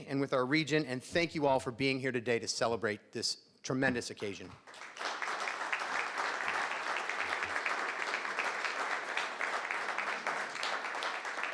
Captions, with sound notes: and with our region, and thank you all for being here today to celebrate this tremendous occasion. (crowd clapping)